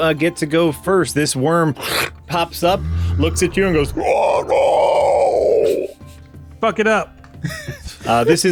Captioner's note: horrible worm noises